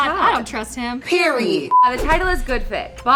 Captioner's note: beep